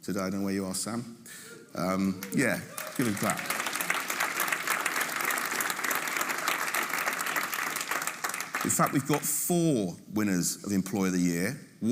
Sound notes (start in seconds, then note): 4.0 audience applauding